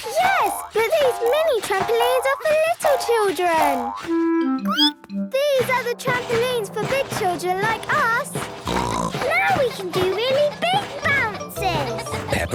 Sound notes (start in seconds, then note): 4.5 squeaks; 6.8 snorts